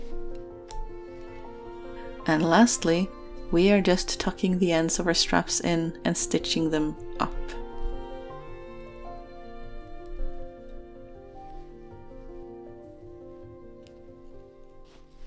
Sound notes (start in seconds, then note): none